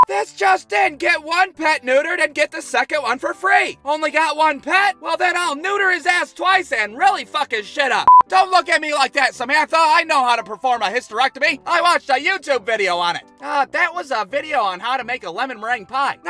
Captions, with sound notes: This just in, get one pet neutered and get the second one for free! Only got one pet? Well, then I'll neuter his ass twice and really fuck his shit up! (BEEP!) Don't look at me like that, Samantha. I know how to perform a hysterectomy. I watched a YouTube video on it. Uh, that a video on how to make a lemon meringue pie.